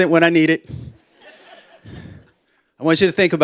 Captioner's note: laughter